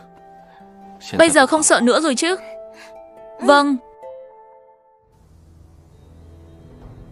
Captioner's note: sniffs